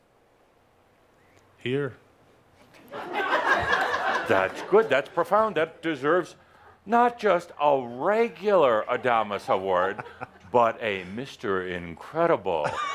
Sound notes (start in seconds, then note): 2.8 laughter